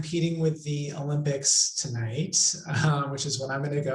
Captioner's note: laughs